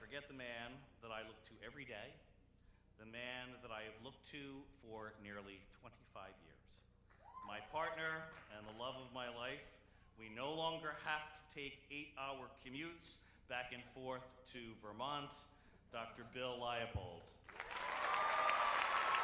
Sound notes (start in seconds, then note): 8.2 applause